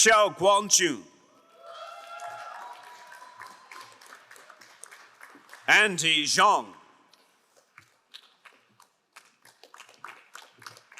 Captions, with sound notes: Xiao Guang Ju. (crowd cheering and applauding) Andy Zhong. (crowd applauding)